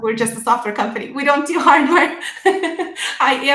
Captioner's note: laughs